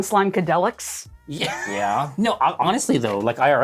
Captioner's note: wheezes